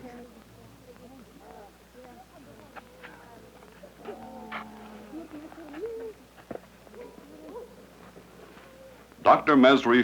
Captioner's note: footsteps